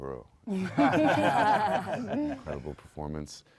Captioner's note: panel laughs